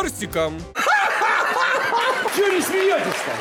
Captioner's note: laughs